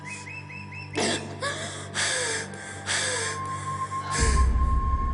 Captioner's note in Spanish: Quejidos; Jadeos de la parturienta